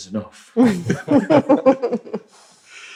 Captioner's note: laughter